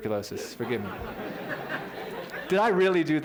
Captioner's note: laughter